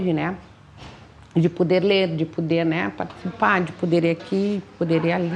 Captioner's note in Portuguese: vozes ao fundo